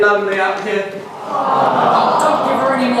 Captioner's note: aww